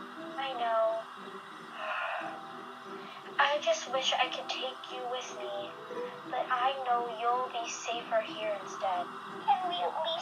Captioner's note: sighs sadly